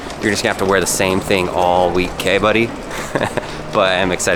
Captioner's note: laughs